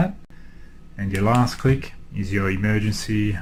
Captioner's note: clicks button